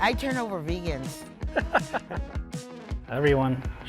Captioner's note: laughs